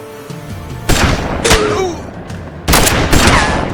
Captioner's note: gun shots